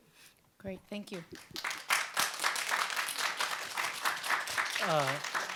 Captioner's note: audience applauds